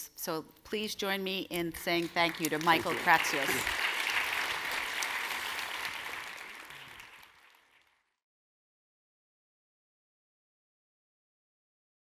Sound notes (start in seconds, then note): 4.7 audience claps